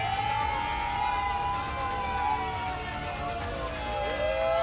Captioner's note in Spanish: gritan